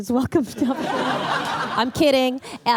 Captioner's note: laughter